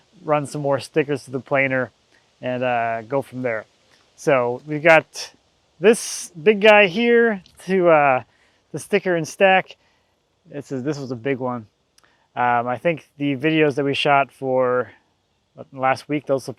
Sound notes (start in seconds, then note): none